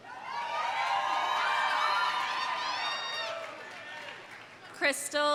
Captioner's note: audience cheering; audience applauding